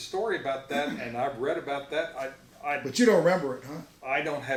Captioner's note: stammers